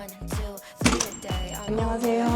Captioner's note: door swings open